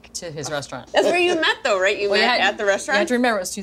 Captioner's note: laughing